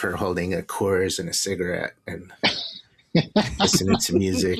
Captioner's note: laughter